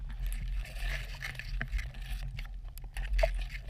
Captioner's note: water sloshing